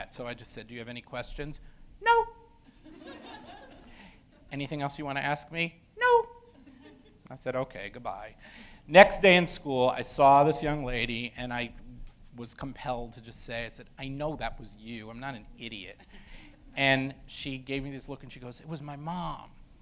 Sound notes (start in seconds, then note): 6.6 audience laughter; 7.4 high pitched voice